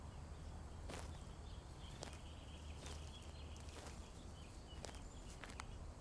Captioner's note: footsteps crunching